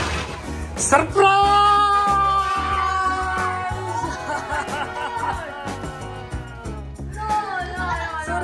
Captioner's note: everyone Cheers